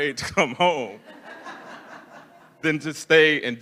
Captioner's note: attendees laughing